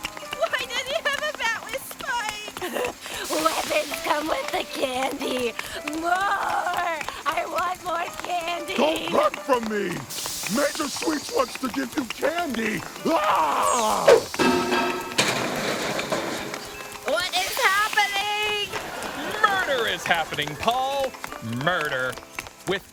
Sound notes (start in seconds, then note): 13.0 Taffy screams; 14.1 objects thudding